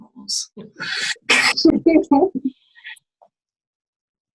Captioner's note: laughing